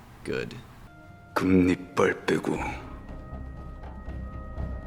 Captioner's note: speaking Korean